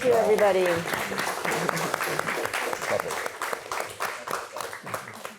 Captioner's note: applause